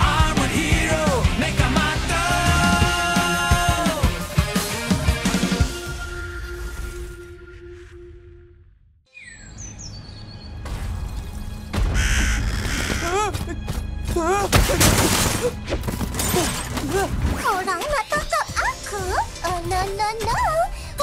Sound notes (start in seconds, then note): 5.9 theme song ends; 9.1 birds twittering; 10.7 echoing boom; 13.2 yelps, whimpers; 19.5 in English